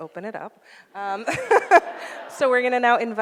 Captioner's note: audience laughs